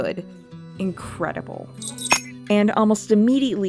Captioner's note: the sound of bells hitting the floor